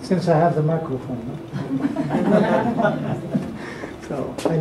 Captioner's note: laughter